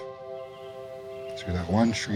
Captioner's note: birds calling